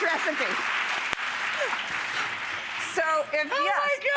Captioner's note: audience clapping